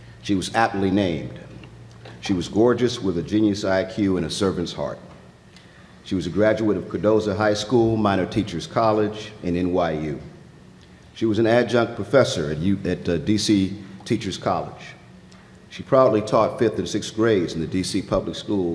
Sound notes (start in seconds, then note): none